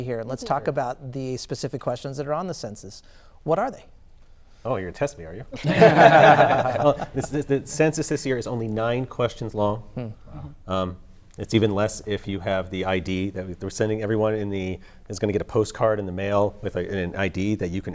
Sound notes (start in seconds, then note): 5.5 laughter